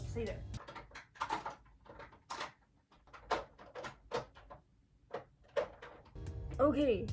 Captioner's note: rattling